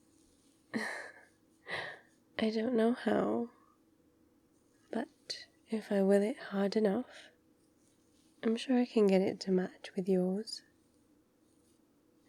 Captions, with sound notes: *laughs* I don't know how but... if I will it hard enough I'm sure I can get it to match with yours